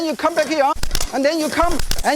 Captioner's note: fapping noises